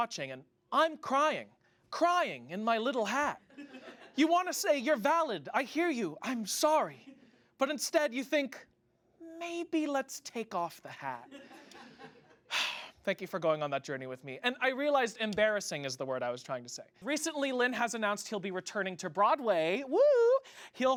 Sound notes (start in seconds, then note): 11.3 audience laughs